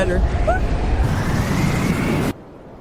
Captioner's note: wind sounds